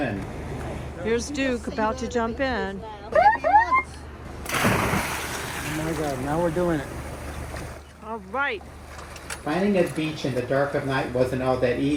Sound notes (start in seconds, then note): 2.8 airhorn blasts, then splash